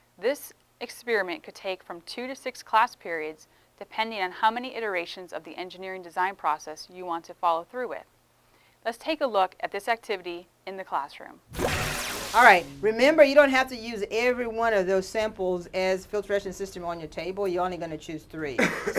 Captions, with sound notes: This experiment could take from two to six class periods depending on how many iterations of the engineering design process you want to follow through with. Let's take a look at this activity in the classroom. [ Swooshing Sound ] All right. Remember you don't have to use every one of those samples as filtration system on our table, you're only going to choose three.